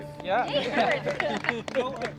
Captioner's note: group applauding and laughing